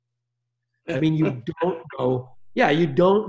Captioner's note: chuckling